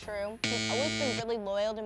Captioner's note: buzzer ringing